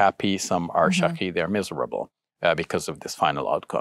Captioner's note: speaking in foreign language